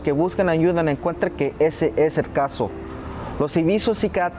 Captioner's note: speaking Spanish